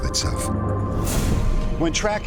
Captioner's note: whoosh